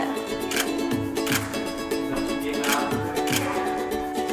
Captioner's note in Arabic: نقرات مصراع الكاميرا; موسيقى مبهجة